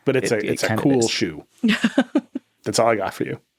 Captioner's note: laughing